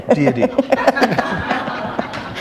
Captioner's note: laughter